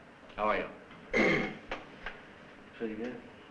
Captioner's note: clears throat